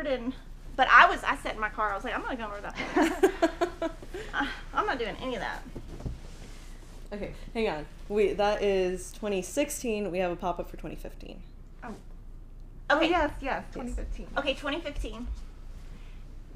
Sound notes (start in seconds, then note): 2.8 laughing